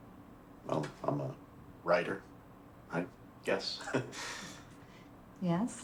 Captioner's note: laughs